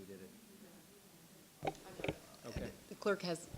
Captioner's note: speaks faintly